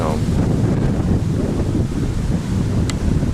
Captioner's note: high Wind